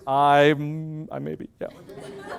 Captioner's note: loud laughter